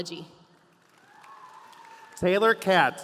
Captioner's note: audience applauding